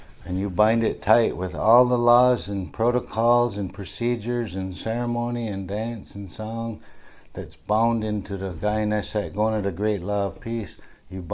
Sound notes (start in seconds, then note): 8.4 speaking in Onondagan